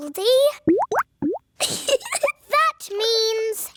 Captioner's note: bubbling; giggles